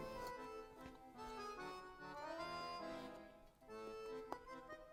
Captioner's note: chews